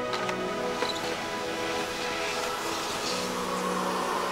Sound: vacuum whirring

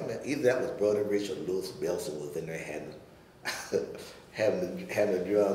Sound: chuckling

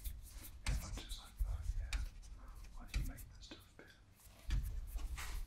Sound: whispering to himself

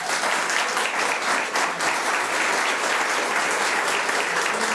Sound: audience applauds

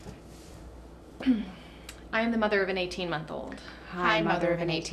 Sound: clears throat

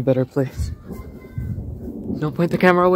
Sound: quiet thunder

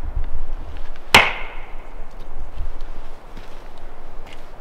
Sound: wood knock

